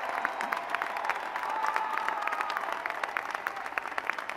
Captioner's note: applause